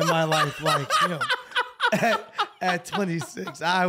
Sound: laughing louder

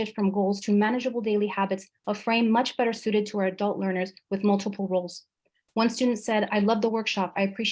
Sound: speaker talking too fast

